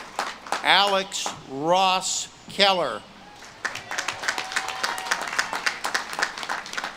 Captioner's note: audience claps and cheers